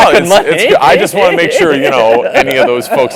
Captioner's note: laugh